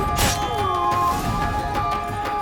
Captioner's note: groan